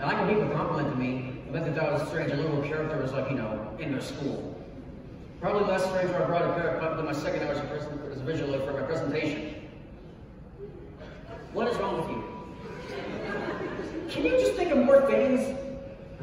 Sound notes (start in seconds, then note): 12.5 laughter